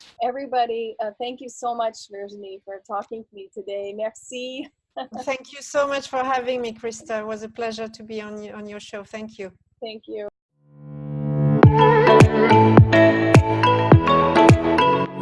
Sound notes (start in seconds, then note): 5.0 laughs; 11.4 upbeat music